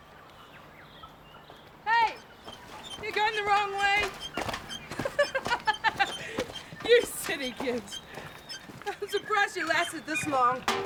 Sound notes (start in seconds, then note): 5.2 laughs